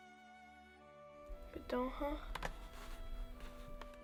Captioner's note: Spoken Cherokee